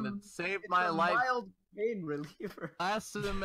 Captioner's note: laughs